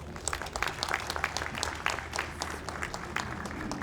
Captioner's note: audience applauds